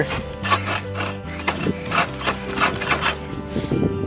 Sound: scraping

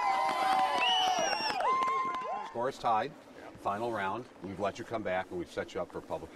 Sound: cheering and applause

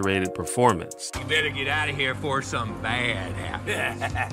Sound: laughs

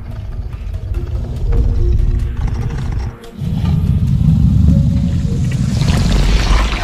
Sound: low Rumbles with Heavy Steps

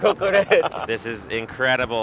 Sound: laughs

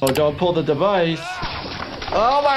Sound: victim calling out

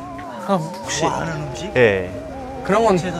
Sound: Scratch

